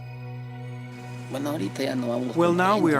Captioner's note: speaking in foreign language